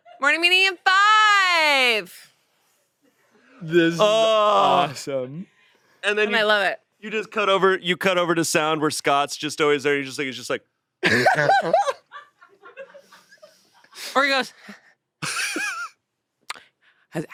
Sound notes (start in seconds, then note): 11.0 laughs; 15.2 laughs